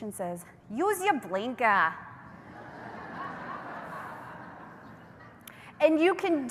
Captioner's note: laughter